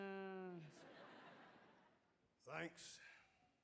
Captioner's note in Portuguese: audience laughing